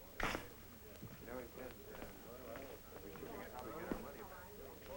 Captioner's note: chattering